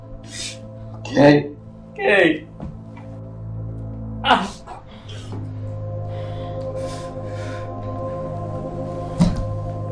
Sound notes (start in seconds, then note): 4.1 groaning; 7.0 ominous music